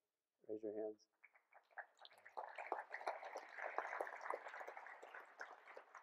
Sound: applause

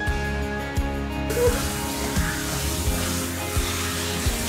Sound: running water

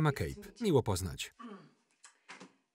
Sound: throat clearing

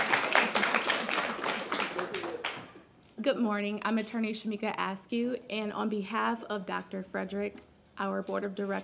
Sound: applause

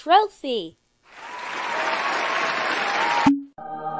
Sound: imaginary Cheering; holy music?

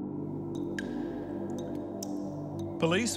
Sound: water dripping

